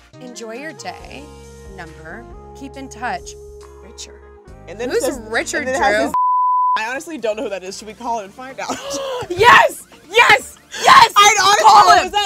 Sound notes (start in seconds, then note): 0.0 sensual music; 8.8 gasps